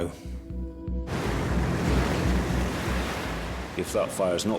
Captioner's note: waves crash